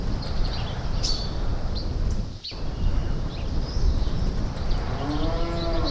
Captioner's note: birds singing